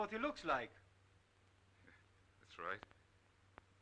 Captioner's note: chuckling